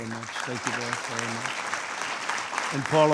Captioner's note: applause